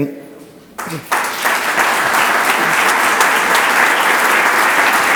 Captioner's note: audience applauds